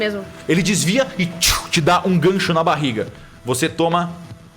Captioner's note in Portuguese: tchouu